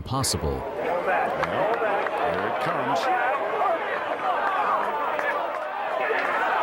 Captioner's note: crowd noise